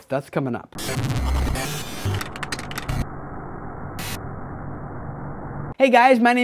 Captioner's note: static